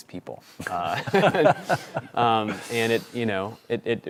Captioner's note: laughter